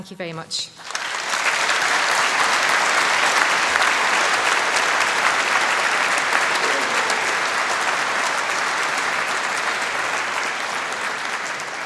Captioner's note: applause